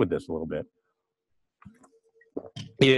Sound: pause

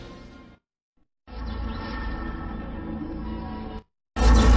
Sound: electricity zapping as mysterious laboratory music plays; electricity and music continuing

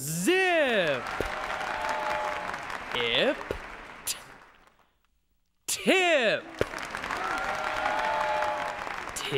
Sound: audience applauds each time new word is formed

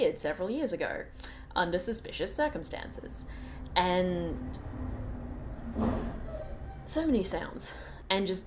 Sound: sound of a truck doing truck things outside

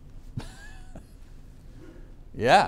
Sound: chuckling

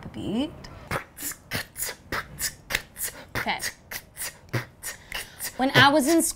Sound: beatboxes

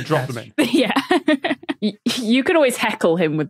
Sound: giggles

